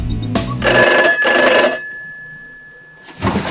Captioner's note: phone rings